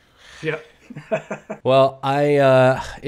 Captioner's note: laughs